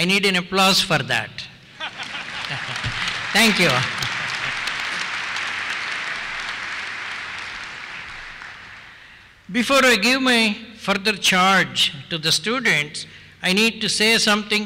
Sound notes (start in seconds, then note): 1.6 applause; 1.7 laughter